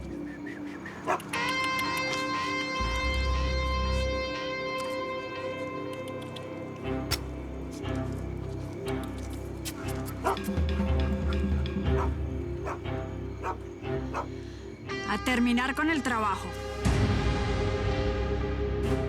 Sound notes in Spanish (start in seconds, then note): 3.5 Ladridos; 12.2 Ladridos